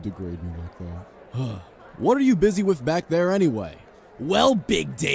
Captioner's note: sighs